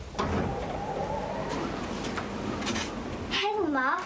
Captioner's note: wind whistling